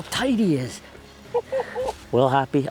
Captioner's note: laughing